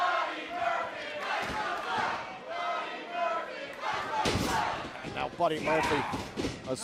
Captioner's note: fans chanting